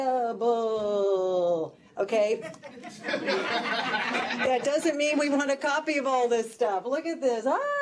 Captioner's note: laughter